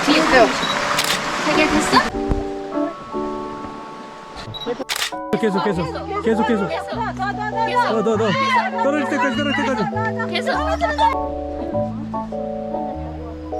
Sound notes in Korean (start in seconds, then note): 7.9 웃음